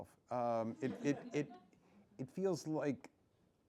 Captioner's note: laughs